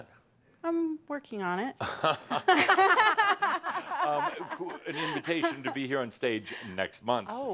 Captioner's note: they laugh